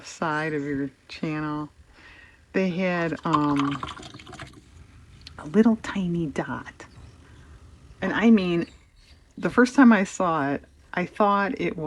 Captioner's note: laughs